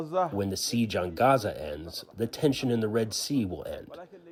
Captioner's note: through translator